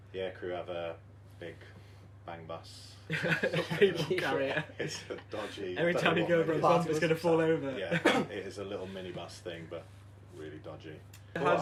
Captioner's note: laughter